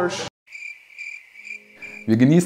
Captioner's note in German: Grillenzirpen